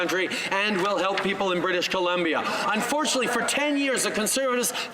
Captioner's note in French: voix de l'interprète